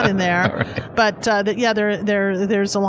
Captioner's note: laughs